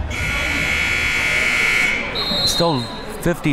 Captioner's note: buzzer rings; whistle blows